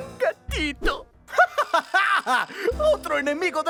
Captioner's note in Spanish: Giovanni se ríe